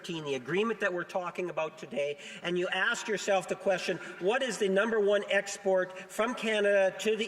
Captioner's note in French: voix de l'interprète